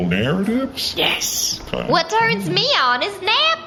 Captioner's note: cheekily